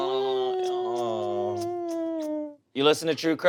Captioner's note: people moaning; people cheering